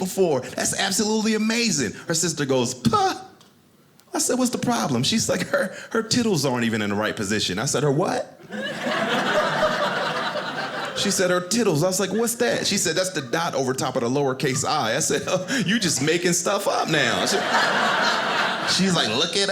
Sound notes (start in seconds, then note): 8.5 audience laughing; 16.8 audience laughing